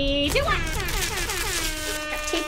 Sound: horns blazing; papers rustling

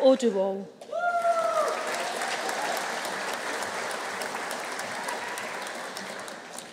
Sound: audience cheering; audience applauding

